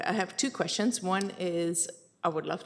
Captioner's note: none